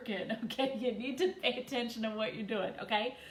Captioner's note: chuckles